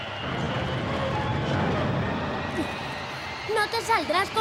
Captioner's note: whirring